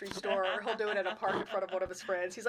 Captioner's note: chuckling